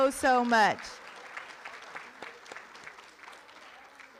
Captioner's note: room applauds